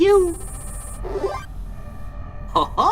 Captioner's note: happy scanner noise!